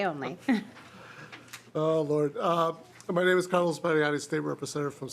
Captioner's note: laughter